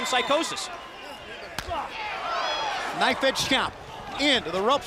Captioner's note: crowd chatter